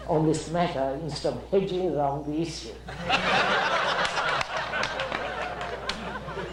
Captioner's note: laughter